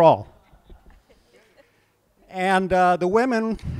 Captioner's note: laughs